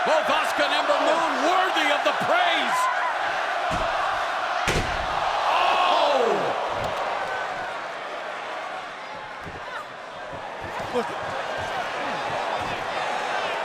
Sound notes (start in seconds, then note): 4.6 canvas thuds; 10.3 wrestlers grunt